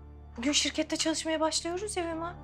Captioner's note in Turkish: none